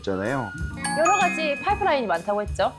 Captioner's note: sound effect: Remembering